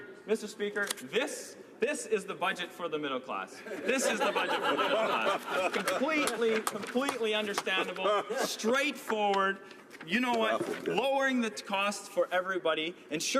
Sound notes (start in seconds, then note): 6.3 laughter